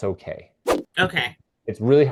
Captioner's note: image whooshing